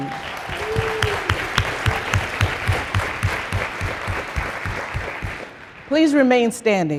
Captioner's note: applause